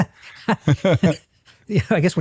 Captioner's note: both laugh